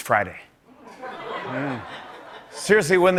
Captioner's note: laughter